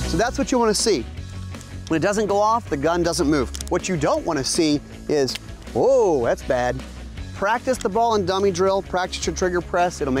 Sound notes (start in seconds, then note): 5.2 gun clicks